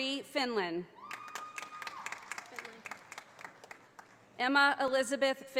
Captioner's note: audience applauding